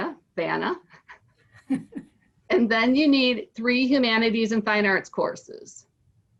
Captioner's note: laugh